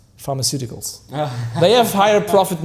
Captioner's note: laughing